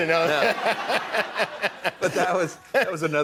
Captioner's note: laughs